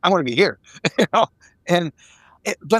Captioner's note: laughing